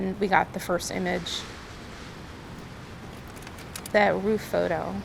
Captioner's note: filmstrip clicking